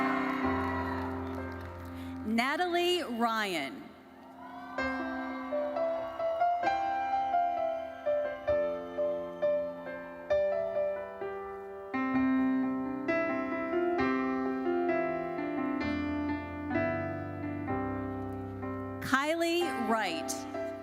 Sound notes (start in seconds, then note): 0.0 audience cheering; 0.0 audience applauding; 4.2 audience cheering; 6.5 audience member whistles; 8.7 lively uplifting music continues